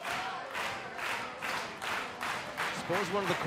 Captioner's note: clapping